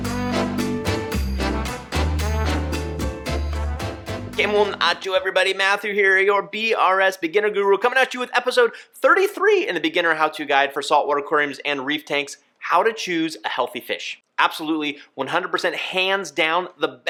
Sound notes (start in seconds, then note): 0.0 upbeat music; 4.2 speaks foreign language